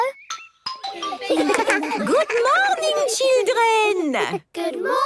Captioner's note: laughter